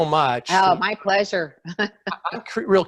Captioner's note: laughing